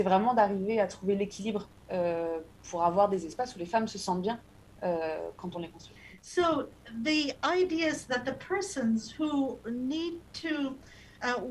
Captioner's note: speaking non-english